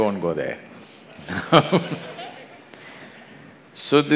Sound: laughs

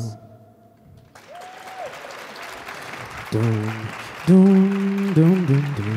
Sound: audience clap and applause

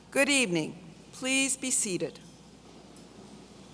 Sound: none

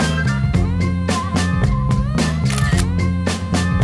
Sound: snaps

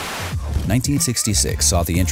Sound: tv static

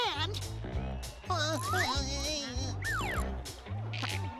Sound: groaning

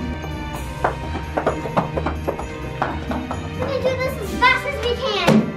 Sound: footsteps

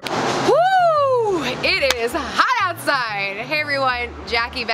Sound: claps

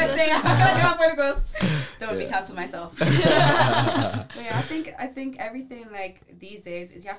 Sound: laughs

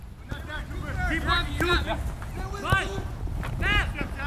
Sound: players yelling

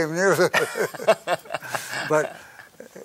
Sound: both laugh

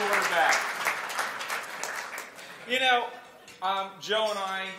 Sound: applause

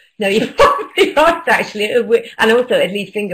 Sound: laughter

